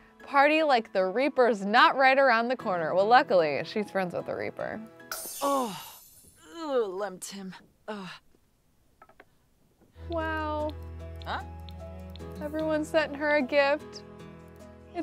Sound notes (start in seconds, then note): 5.4 sim groaning